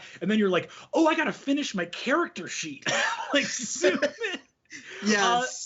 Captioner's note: laughing